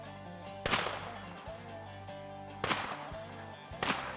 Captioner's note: gun shots